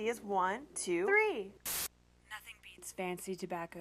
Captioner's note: static